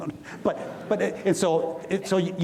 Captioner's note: audience laughs